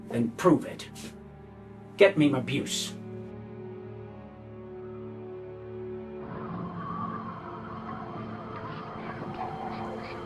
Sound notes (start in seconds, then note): 4.6 dark music; 4.6 wind whistles